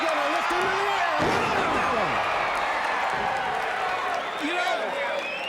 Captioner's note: fans cheering